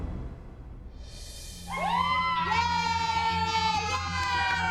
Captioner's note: whooping, cheering